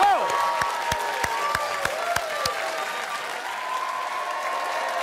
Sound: cheers and applause

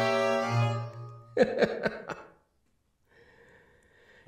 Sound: laughing

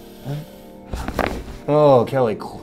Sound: bones cracking

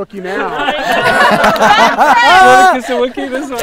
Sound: laughter

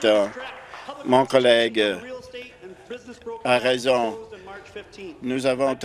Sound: applause

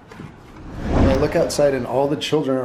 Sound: whoosh sound effect

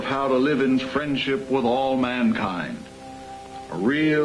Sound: none

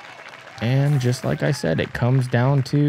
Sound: crowd cheering

